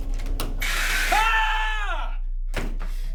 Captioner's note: William screams